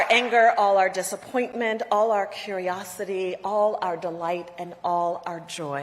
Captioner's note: applause